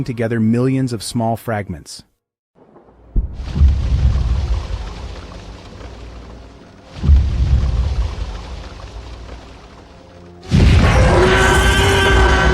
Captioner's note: stomping sounds